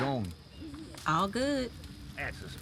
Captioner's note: sighs